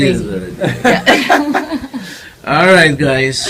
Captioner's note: all Laugh